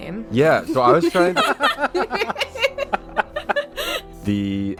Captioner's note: laughter